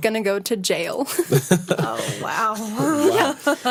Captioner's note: laughter